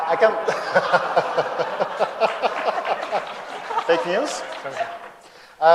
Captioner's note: laughter